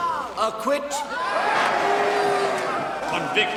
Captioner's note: cheering